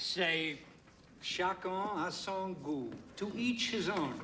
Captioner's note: speaking foreign language